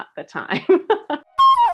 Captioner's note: laughs